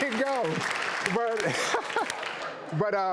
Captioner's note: clapping; laughing